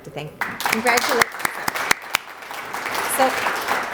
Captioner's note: applause